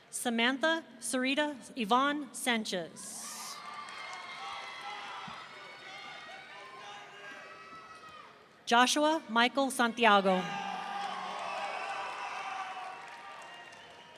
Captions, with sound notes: Samantha Serena Yvonne Sanchez. (audience cheering) Joshua Michael Santiago. (audience cheering)